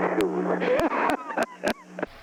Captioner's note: laughter